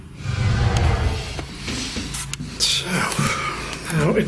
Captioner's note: echoing sound